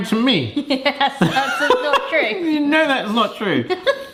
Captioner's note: laughing